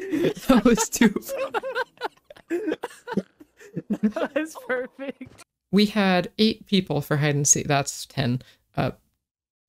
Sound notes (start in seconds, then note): 0.0 crafty laugh n°74; 2.4 smant wheeze